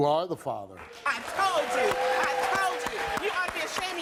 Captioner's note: audience applauds